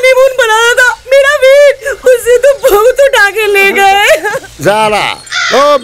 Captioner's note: Sobbing